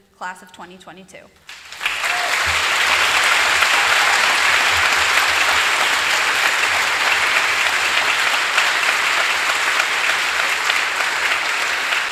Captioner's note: applause